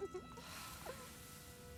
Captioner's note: laughs; sigh